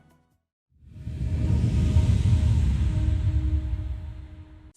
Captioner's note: air whooshing